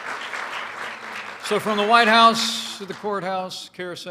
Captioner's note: applause